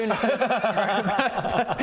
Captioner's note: impatient laughter